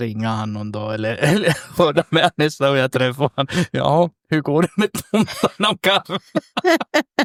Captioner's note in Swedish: skratt